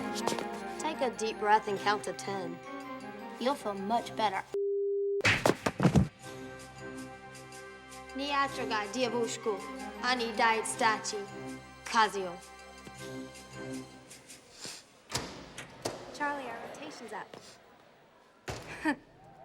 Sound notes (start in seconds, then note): 8.1 speaking russian; 18.6 chuckles